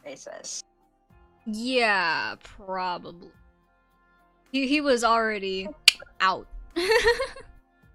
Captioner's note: click